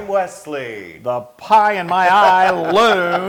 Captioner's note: laugh